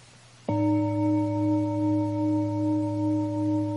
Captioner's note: bells chiming